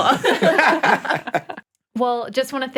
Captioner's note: all laugh